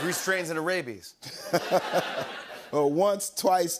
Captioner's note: laughs